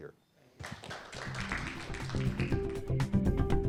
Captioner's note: audience clapping; upbeat music